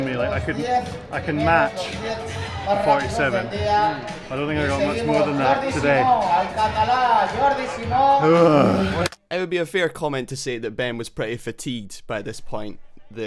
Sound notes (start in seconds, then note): 6.4 announcer speaking foreign language; 8.2 groaning